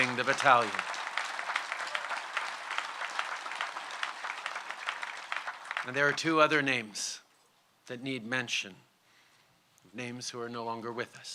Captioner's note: applause